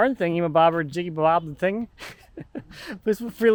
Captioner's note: chuckles